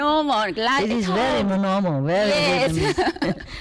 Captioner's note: Vietnamese